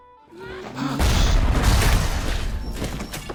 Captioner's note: pwom-BOOSH